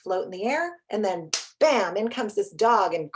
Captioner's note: claps hands